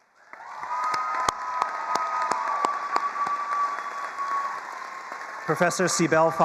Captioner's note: attendees cheering and applauding